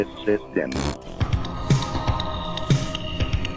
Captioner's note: raspberry